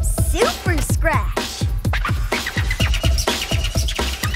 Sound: scratching

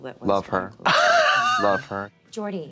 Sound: Katya rasps

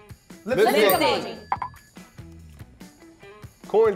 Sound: bell dings

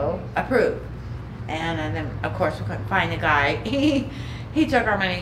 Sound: chuckling

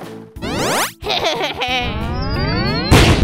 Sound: blaster shot

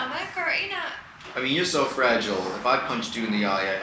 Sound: voiceover

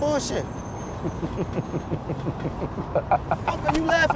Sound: laughs

